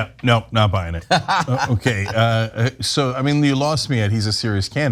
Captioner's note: laugh